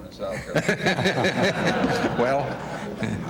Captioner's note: laughter